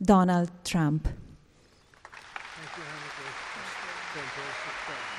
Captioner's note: applause